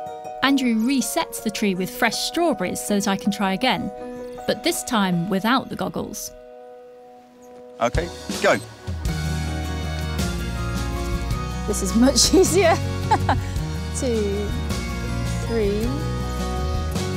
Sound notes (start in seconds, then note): 12.1 laughs